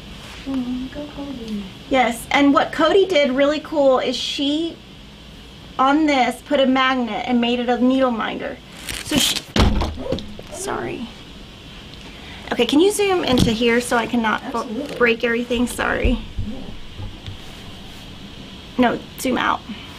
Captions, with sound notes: And what Cody did, really cool, is she on this put a magnet and made it a needle minder. (board crashes to ground) Sorry. Okay, can you zoom into here, so I can not break everything, sorry. No zoom out.